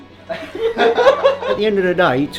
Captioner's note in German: Gelächter im Hintergrund